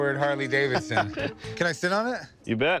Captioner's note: laughs